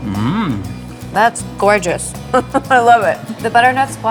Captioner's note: chuckles